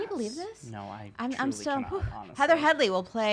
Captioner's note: hoots